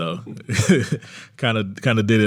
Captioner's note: laughs